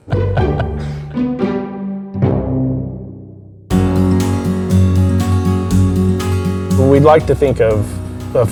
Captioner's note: laughs